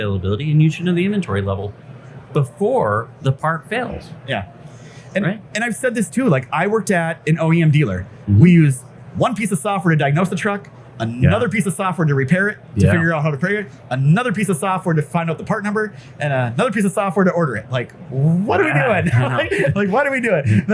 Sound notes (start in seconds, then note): 18.1 laughs